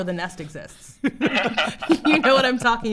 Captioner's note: laughter